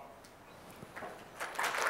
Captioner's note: applause